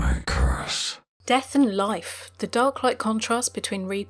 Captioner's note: voiceover